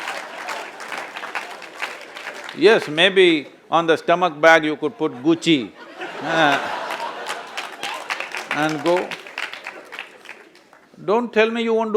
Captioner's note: laughter/Applause; laughter/Applause